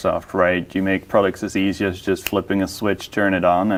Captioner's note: snaps fingers